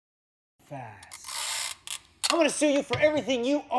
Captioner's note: sound of scotch tape